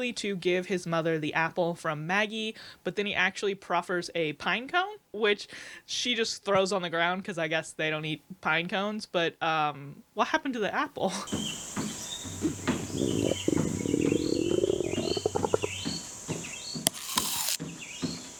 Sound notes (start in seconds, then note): 11.2 forest sounds, foot steps; 12.3 stomach growling, apple crunching; 16.9 more stomach growling, apple crunching; 17.7 continued forest sounds, foot steps